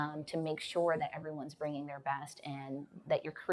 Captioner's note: none